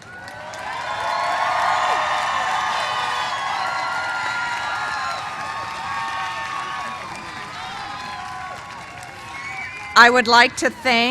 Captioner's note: cheers and applause